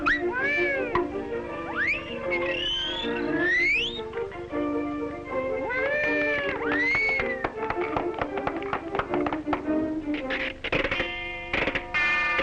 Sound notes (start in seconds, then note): 5.8 cheering and applauding